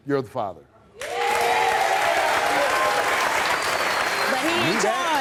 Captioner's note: audience applauds